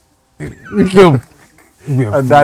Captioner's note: laughing